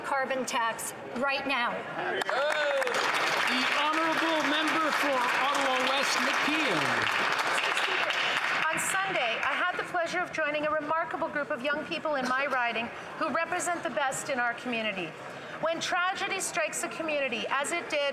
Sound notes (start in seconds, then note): 4.5 some Applause